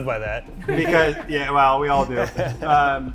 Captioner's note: everyone laughs